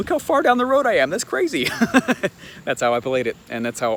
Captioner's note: chuckles